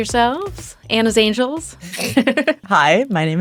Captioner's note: laughs